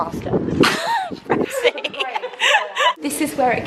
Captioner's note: laughter